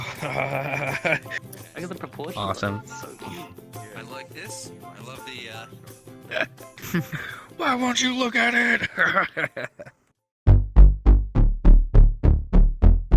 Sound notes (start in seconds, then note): 8.6 laughing